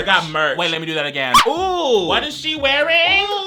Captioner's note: man yelps